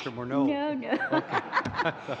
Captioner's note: laughter